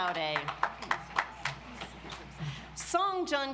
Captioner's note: audience applauds